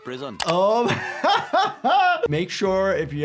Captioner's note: laughs